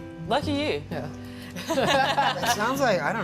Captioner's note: laughs